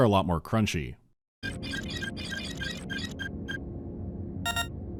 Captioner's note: beep-boop-bleep-bloop; ptoot